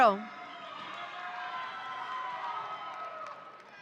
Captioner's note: audience cheering